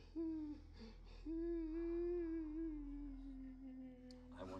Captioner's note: sobbing